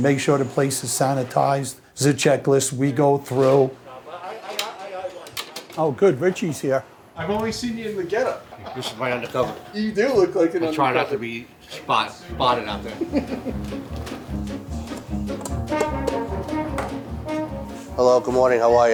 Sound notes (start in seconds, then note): 4.4 background chatter; 13.8 invigorating music